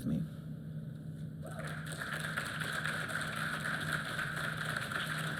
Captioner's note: applause